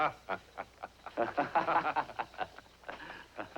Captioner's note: chuckling; laughing